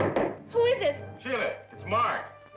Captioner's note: door knocking